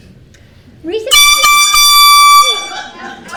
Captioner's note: air horn blares